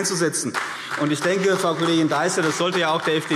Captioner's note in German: Beifall CDU und BÜNDNIS 90/DIE GRÜNEN